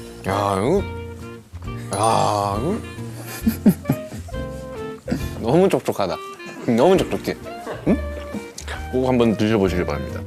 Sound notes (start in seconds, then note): 3.1 haha